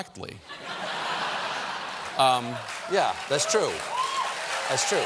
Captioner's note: laughter; applause